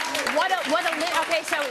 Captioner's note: applause